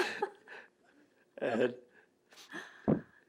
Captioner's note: laughter